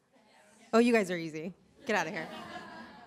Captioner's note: laughter